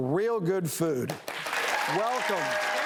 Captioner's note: audience applauds